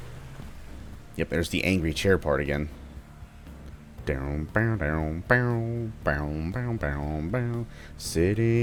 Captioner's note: moar Angry Chair humming